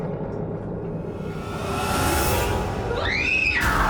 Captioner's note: screams